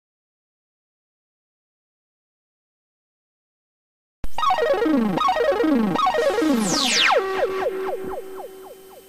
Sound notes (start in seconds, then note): 0.0 silence; 4.3 80s synthesizer sounds